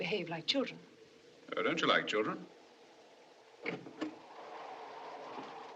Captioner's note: door Opens